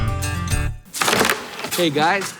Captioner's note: rope hitting plastic